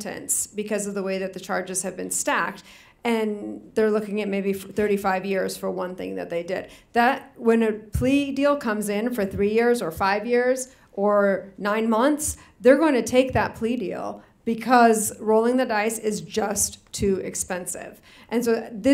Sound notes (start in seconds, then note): none